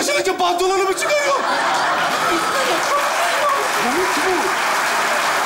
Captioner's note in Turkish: Alkış sesleri